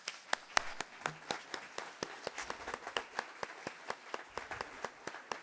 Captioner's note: applause